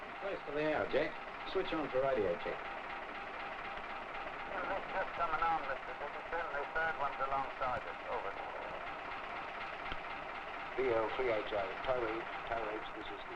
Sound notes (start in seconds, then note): 4.5 speaking over radio